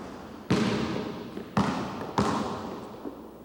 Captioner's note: basketball being dribbled